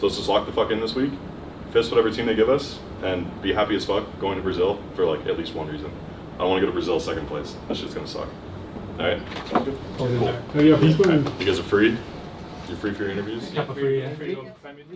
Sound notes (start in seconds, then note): none